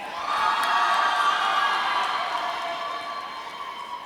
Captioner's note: audience cheering